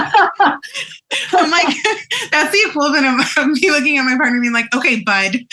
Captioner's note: laughs